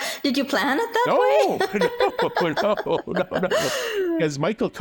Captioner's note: laughs